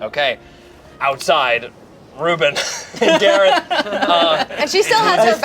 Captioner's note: group laughs